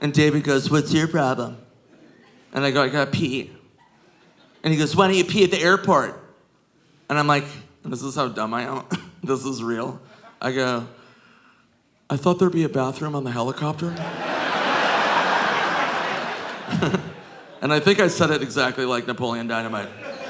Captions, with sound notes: And David goes, "What's your problem?" And I go, "I gotta pee." And he goes, "Why didn't you pee at the airport?" And I'm like... And this is how dumb I am. This is real. I go, "I thought there'd be a bathroom on the helicopter." (audience laughing) (Nick chuckles) And I think I said it exactly like Napoleon Dynamite.